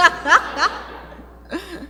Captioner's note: laughter